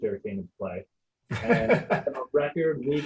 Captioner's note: laughing